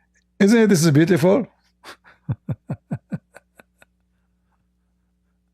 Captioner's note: Ketawa